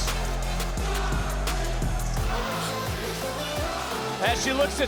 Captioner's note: crowd chanting